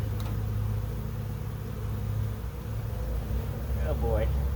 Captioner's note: bees buzzing